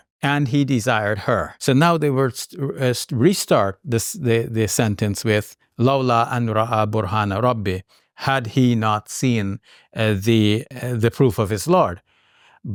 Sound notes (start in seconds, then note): 5.5 speaks Arabic